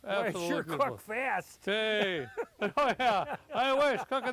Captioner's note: laughing